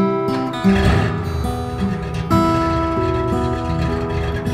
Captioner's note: engine rumbling